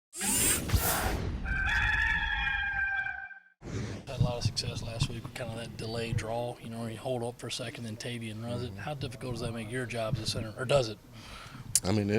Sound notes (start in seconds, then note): 0.2 electronic noises; 1.4 rooster Crowing